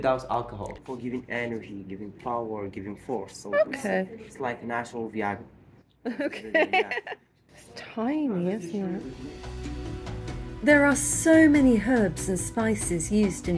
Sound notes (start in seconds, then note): 6.1 laughing; 9.0 traditional music